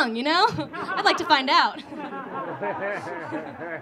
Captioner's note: audience laughing